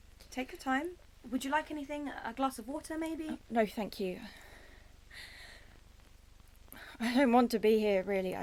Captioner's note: deep breath